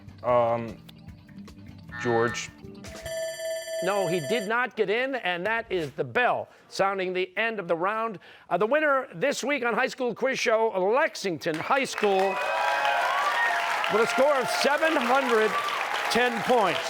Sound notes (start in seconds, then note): 3.0 buzzer; 3.0 bell rings; 13.9 cheers and applause